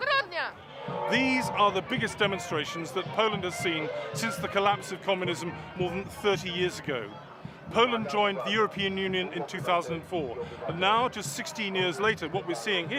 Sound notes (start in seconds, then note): 3.4 crowd chanting in polish